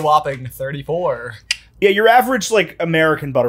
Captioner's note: clicks tongue